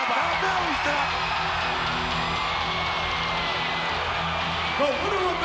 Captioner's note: crowd cheering; upbeat rock music